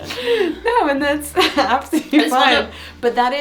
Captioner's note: laughs